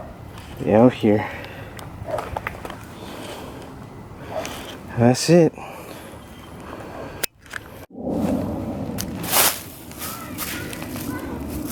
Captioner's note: dog barks at me